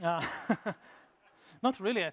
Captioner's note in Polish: śmiech